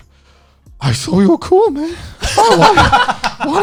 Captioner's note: laughing